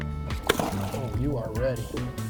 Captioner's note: water splashing